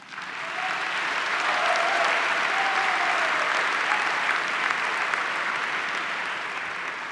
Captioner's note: applause